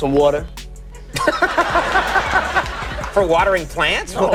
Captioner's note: laughing